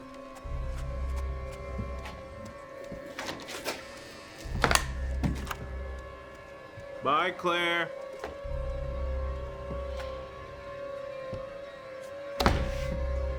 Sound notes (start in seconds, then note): 0.1 sinister music; 4.4 door clicks; 8.5 sinister music